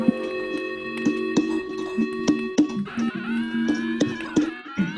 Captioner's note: dwarves humming